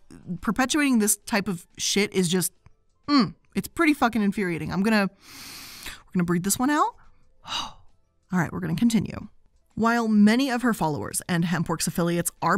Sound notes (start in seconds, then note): 5.2 inhales; 7.8 exhales